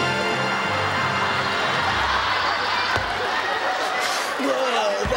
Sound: audience laughing

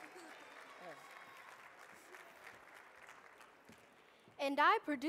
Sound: audience clapping

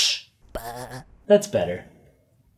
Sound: lamb baas quietly

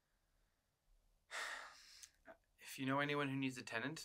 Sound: Terry sighs

